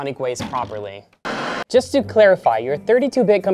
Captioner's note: static